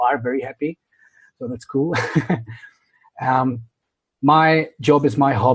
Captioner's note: laughs